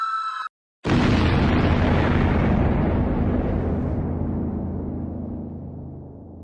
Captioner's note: gentle eerie music; tense ominous music; explosion booms